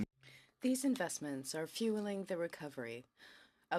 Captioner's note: speaking in french